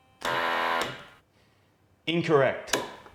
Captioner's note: machine blaring